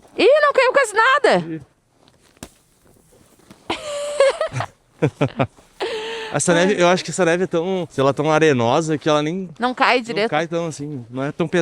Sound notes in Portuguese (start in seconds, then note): 3.7 risadas